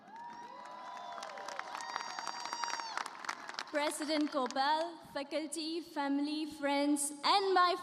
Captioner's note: cheers and applause